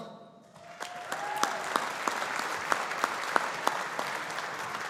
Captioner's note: audience applauding